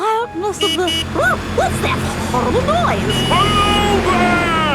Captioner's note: honking